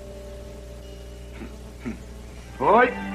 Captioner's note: clears Throat